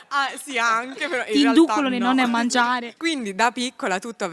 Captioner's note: laughing